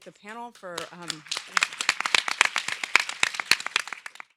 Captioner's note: audience applauds